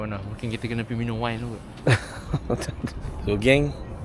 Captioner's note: laugh